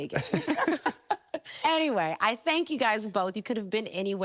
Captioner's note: laughing